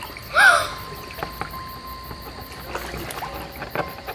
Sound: gasp!

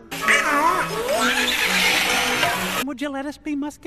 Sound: dying duck noises

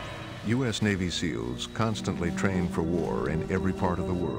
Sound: voiceover

